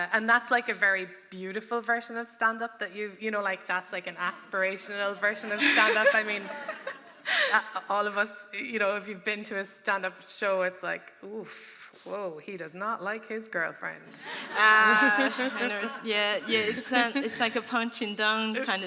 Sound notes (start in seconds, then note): 5.1 laughter; 14.2 audience laughing